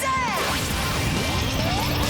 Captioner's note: cheering